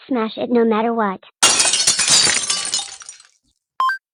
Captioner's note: glass breaks